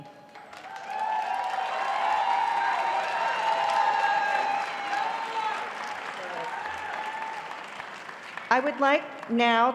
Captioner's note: applause